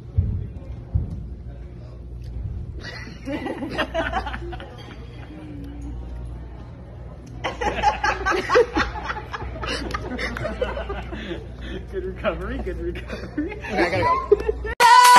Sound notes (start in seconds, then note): 2.8 laughter